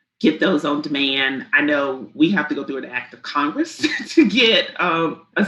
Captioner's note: chuckles